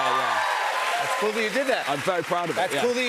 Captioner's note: cheers and applause